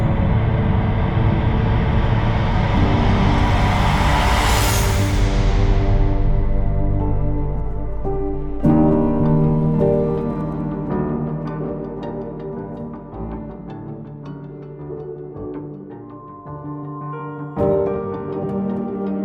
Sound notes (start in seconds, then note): 1.6 swelling whoosh; 11.9 dramatic music continues